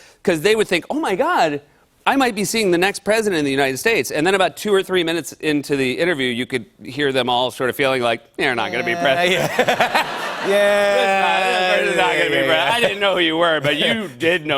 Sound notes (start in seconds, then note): 9.1 laughter